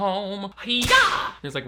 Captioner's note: whip cracks